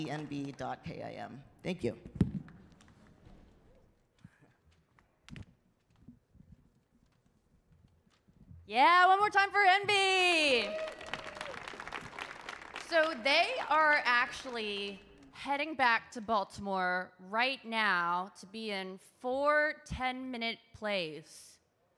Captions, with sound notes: I'm on Instagram, E-N-B dot K-I-M. Thank you. - Yeah, one more time for Enb! (audience claps) So they are actually heading back to Baltimore right now to be in four 10-minute plays.